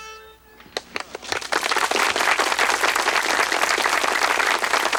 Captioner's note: townsfolk applaud